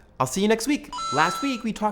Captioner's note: coin effect